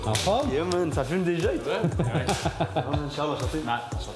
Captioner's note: laughs